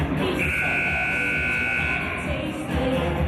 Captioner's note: buzzer